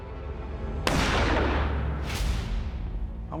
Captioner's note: gunshot